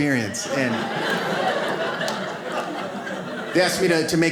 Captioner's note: audience laughs